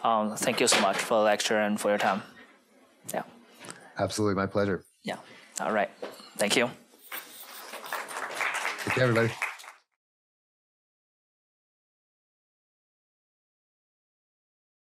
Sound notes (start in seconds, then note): 7.4 applause